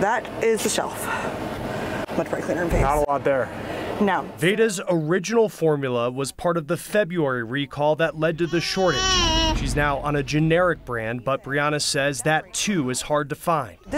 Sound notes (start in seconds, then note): 8.4 cries